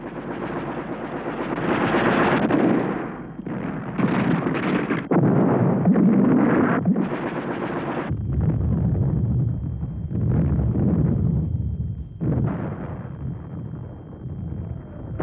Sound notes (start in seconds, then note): 0.0 rapid gunfire; 3.4 explosions; 8.0 explosions rumbling